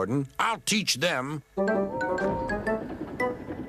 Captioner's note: whistles